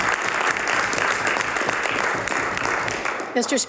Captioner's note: some Applause